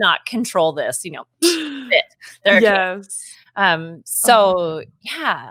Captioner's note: speaking faintly